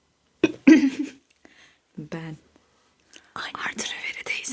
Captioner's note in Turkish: kahkaha